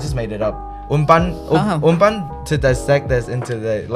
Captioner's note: Taiwanese